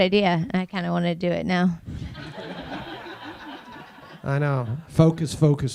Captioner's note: audience laughing